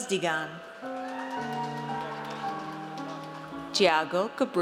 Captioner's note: audience cheers